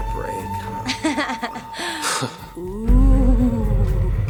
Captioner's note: laughing